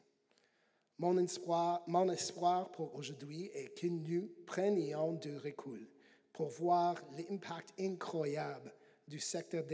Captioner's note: speaking French